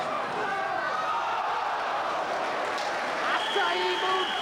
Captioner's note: spectators exclaiming